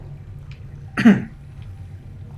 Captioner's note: coughs